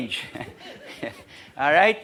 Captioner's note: laugh